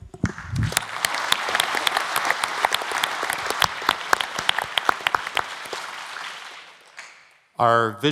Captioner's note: applause